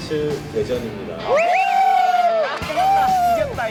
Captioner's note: cheering